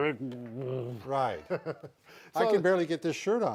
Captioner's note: laughing